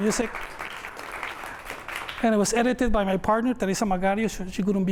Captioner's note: applause